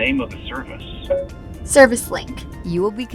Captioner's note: tone beeps